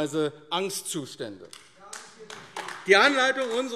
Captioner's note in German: Beifall AfD